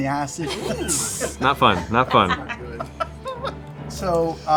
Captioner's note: sizzling sound